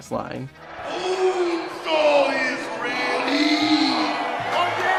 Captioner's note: audience cheering